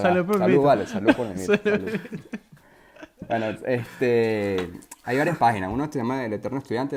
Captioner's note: laughter